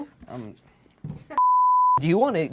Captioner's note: beep